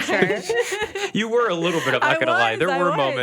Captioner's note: laughs